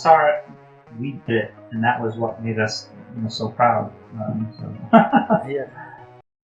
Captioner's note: Risas